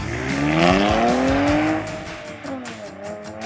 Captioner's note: engine revving